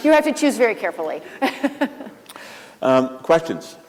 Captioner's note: laughs